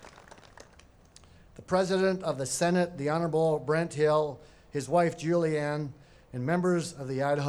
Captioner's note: applause